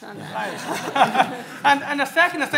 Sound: laughing

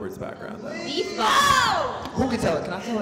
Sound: yells

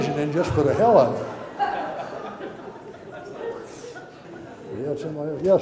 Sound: audience laughter

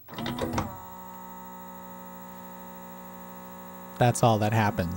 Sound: consistent whirring sound

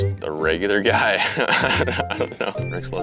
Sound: laughing

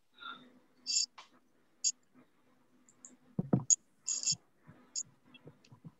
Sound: pause; static

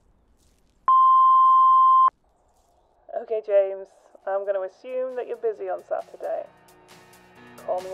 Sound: voicemail tone

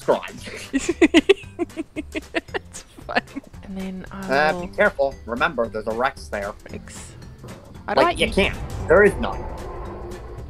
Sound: distant RAAWWWWWR

